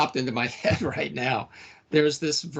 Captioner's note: laughing